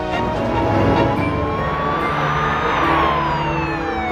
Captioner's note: siren blaring